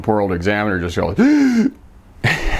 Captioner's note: sharp intake of breath